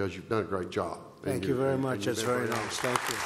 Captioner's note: applause